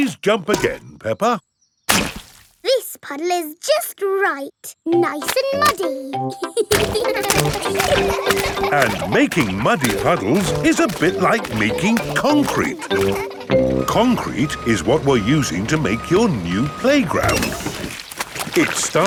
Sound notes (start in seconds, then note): 6.6 children laughing